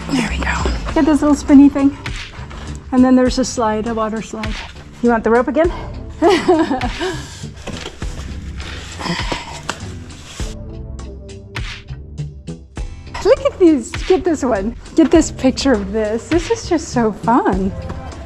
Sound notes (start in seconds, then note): 6.2 laughter